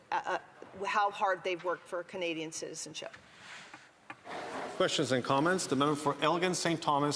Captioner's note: none